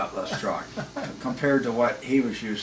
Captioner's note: laughing